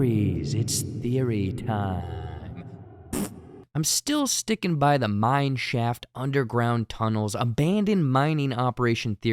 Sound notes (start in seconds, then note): 3.1 fart